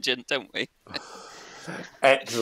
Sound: laughs

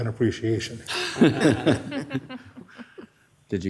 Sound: laughter

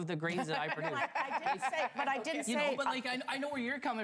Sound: laughter

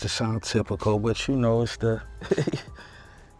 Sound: laughs

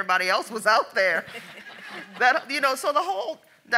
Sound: audience laughs

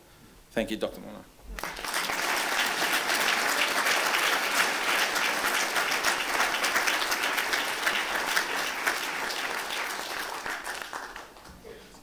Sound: applause

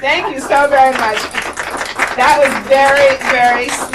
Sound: applauds

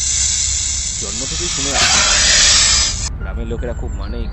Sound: snake hisses

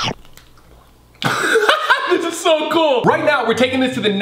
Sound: laughing

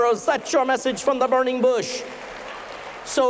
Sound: applause

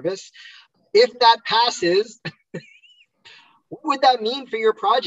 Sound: laughs

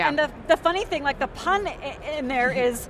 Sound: laughing

